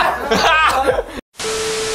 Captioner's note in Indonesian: Tertawa